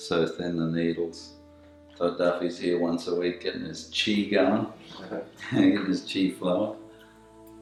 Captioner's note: chuckles